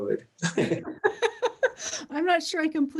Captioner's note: laugh